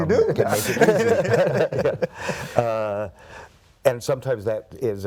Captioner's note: laugh